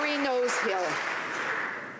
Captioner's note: some Applause